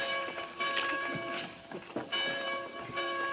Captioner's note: bells ringing